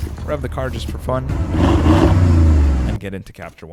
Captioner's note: car Engine Revving